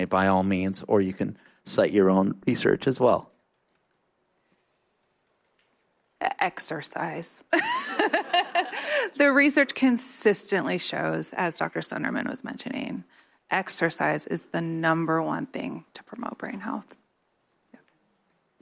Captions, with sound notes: by all means, or you can cite your own research as well. Exercise. [LAUGHTER] The research consistently shows, as doctor Sunderman was mentioning, exercise is the number one thing to promote brain health.